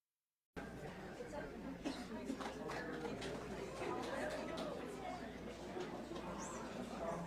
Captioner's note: audience members chatting indistinctly